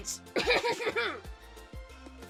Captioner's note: CRINGE-ASS throat clearing